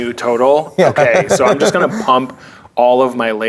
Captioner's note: laughing